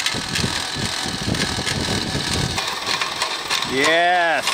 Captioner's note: crusher engine turning